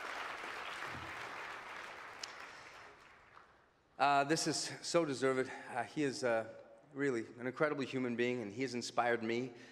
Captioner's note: applause